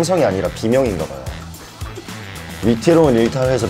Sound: laughing

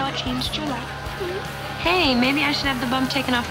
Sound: giggling

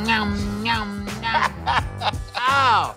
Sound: chuckles

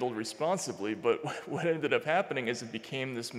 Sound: chuckling

